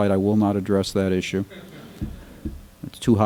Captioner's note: laughter